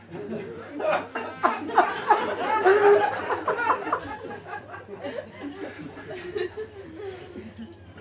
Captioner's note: audience laughs